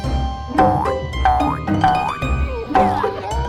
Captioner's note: arrow boinging; people grunting